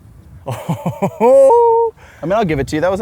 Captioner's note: laughs